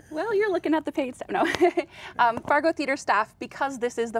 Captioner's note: laughing